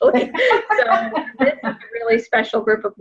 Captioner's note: laughing